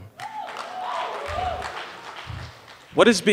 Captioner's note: audience cheering